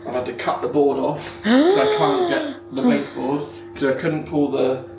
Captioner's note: gasps